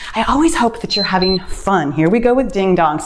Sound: timer beeps

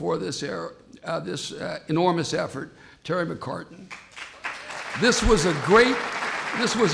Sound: applause

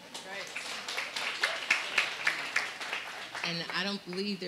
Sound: audience applauding

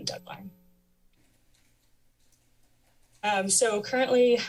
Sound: pause

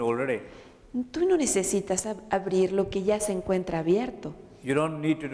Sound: Spanish

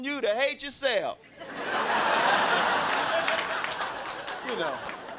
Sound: crowd laughing

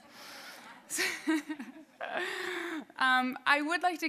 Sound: audience laughing

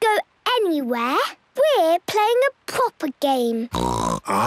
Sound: snorts

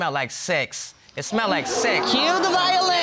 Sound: audience exclaiming

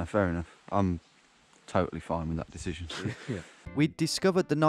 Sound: chuckling

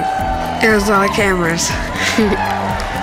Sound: laughs

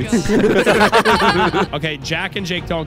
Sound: all laughing

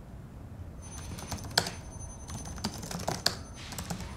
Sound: keyboard strokes

